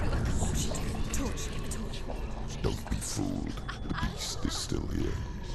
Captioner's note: whispering